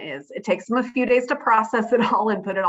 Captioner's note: laughs